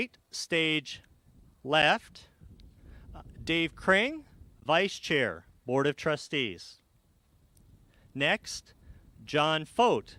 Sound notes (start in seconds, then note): none